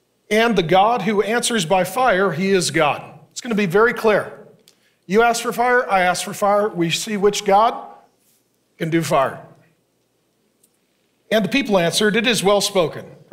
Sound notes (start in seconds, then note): none